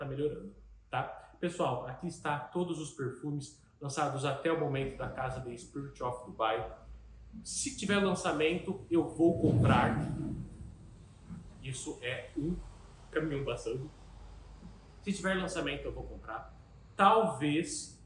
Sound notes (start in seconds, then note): 9.2 that's a truck passing